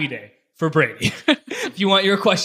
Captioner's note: laughing